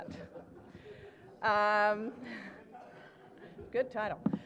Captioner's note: laughter